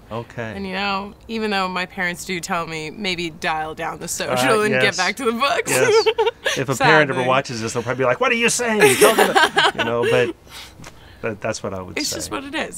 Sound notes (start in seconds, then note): 5.7 chuckles; 8.7 laughs